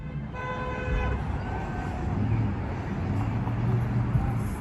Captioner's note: horns honking